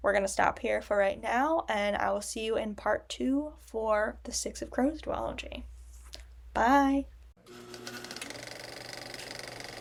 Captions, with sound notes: We're gonna stop here for right now, and I'll see you in part two for the Six of Crows duology. Bye. [film projector whirring]